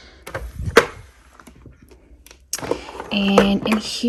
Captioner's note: drawer sliding